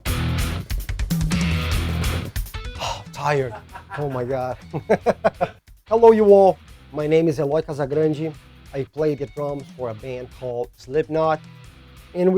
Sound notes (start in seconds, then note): 0.1 intense metal music; 2.8 laughs